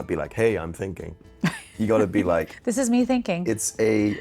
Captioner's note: chuckling